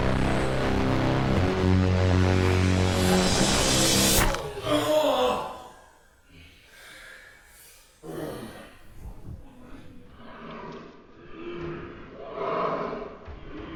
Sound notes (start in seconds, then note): 3.6 crunching impact; 4.4 moan of pain; 10.3 gasping breaths